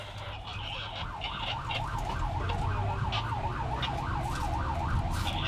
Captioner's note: siren wailing